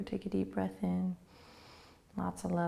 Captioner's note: inhaling